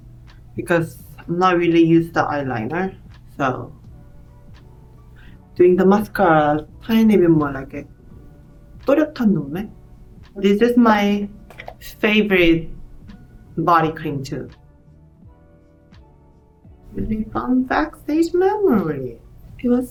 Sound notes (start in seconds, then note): 8.0 speaks Korean